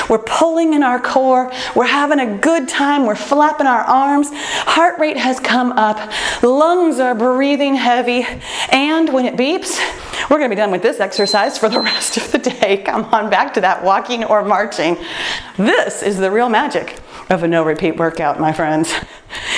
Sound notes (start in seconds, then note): 11.1 timer beeps; 12.6 laughs